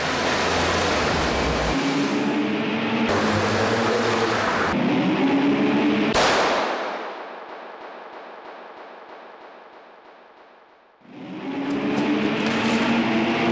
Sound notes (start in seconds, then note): 0.0 engine rumbling; 5.8 gunfire blasting